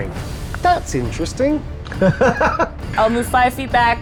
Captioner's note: laughs